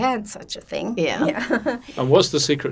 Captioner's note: laughing